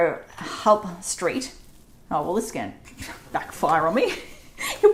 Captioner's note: laughs